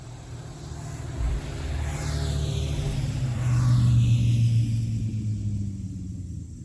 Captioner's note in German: Motorradmotoren fahren vorbei